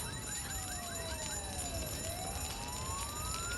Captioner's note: sirens wail